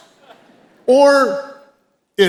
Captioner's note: audience chuckles